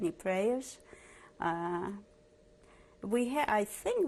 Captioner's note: pauses for 3 seconds